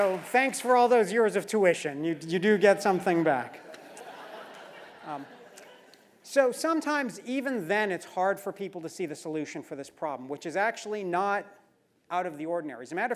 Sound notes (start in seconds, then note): 3.6 laugh